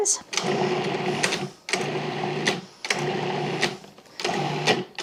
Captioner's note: food processor whirring